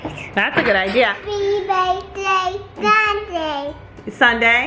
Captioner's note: babbling